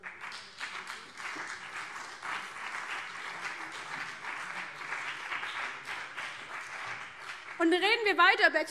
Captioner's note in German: Beifall BÜNDNIS 90/DIE GRÜNEN